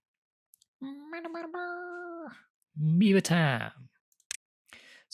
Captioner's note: more silly beaver noises